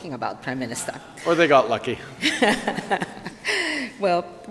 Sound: laughter

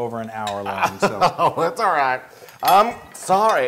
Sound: laugh

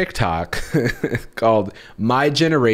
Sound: chuckles

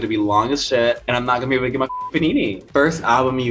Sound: beep

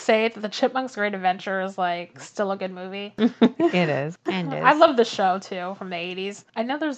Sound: laughs

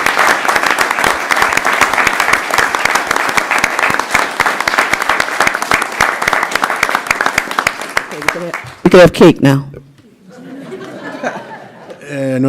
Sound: applause

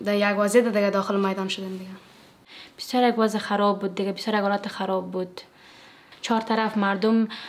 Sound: speaking in foreign language

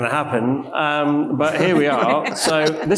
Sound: panelist and audience laughs

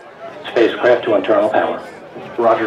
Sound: voice on radio

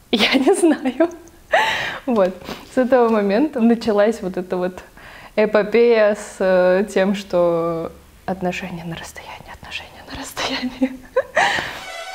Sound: laughs

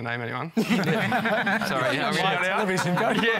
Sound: laughter

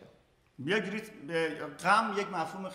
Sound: speaking in farsi

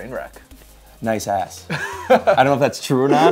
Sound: laughing

